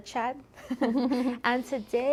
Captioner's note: both laughing